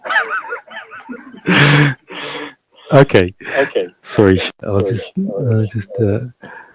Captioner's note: laughs loudly